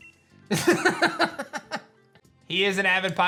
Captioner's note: laughs